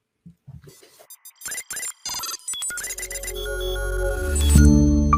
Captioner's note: machines beeping